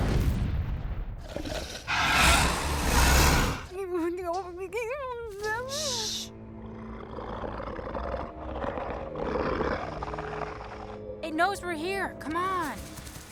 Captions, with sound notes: [ROARS] [MUMBLES] SHH! [GROWLS] IT KNOWS WE'RE HERE. COME ON.